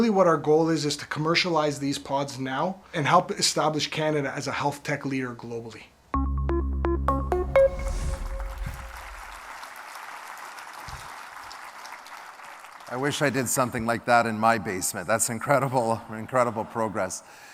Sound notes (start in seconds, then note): 8.7 applause